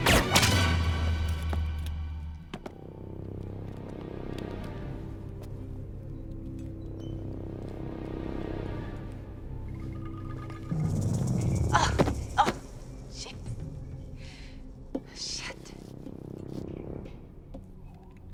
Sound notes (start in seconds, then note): 0.1 gun fires; 3.1 suspenseful music; 11.7 grunts; 16.6 suspenseful music